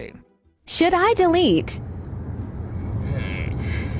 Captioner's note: electronic Voice